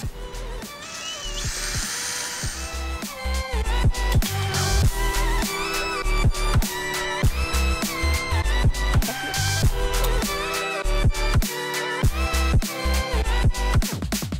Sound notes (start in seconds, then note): 0.0 smooth uptempo music; 0.6 tool whirring